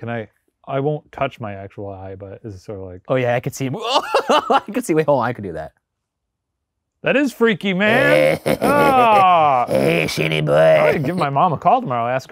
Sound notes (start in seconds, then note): 4.2 laughing